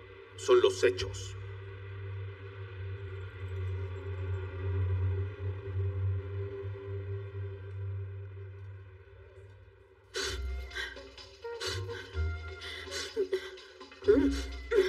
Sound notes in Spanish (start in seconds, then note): 7.9 Ríe